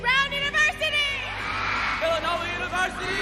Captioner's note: audience applauding